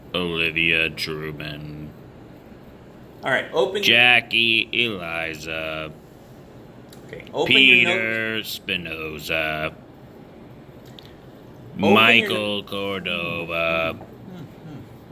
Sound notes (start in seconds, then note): 3.7 intercom; 7.6 intercom; 12.1 intercom